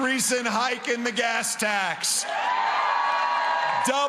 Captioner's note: cheering & applause